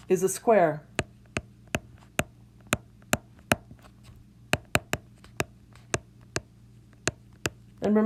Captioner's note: tapping sounds